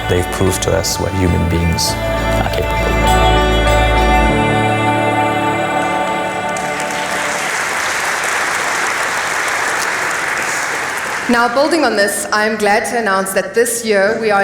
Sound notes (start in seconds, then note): 8.4 applause